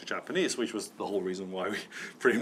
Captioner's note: chuckling